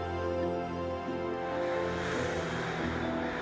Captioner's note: crows cawing